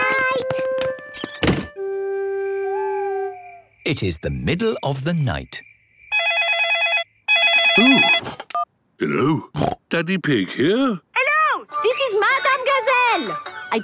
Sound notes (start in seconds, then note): 2.5 owl hooting; 4.1 phone ringing; 7.6 snorting